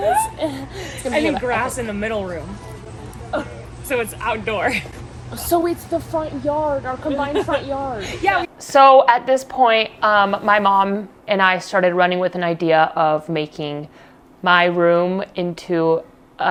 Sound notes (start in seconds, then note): 4.9 laughs; 7.2 laughs